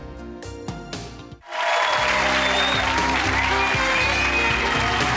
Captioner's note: audience cheering